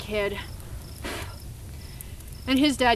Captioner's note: blows